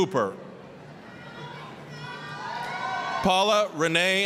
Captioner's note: applause, cheering